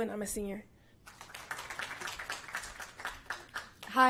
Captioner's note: applause